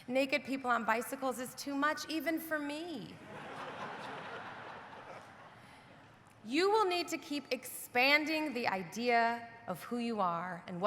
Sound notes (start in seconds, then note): 3.3 audience laughing